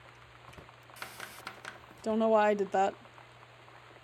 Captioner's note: loud Static